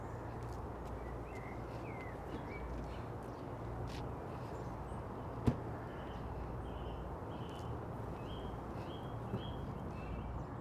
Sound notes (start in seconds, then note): 5.4 car door slams shut; 6.9 birds continue chirping